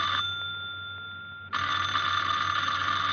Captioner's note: phone ringing